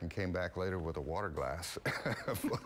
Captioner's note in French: laughter